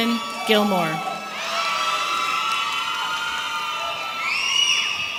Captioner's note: audience cheering